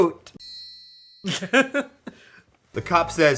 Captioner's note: chuckles